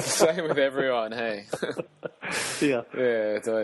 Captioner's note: laugh